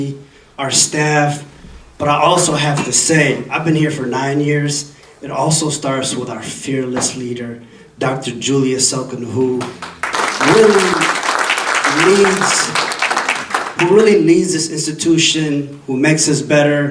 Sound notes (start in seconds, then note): 9.6 audience applauding